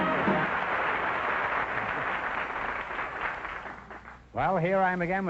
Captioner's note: music & applause; applause